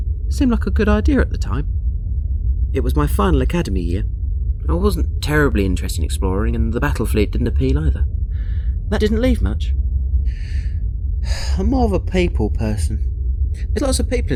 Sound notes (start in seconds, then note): 11.2 sigh